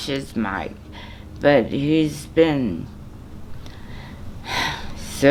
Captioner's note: sighs